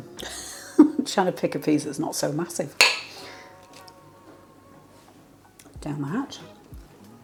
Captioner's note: laugh